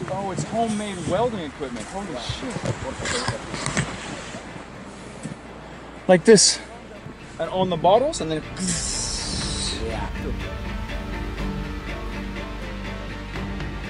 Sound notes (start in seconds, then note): 9.3 makes cutting sound; 11.2 light music